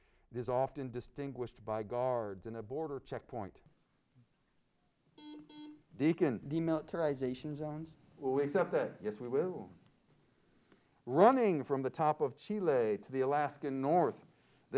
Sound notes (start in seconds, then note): 5.1 buzzer sounds